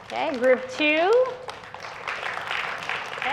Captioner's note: clapping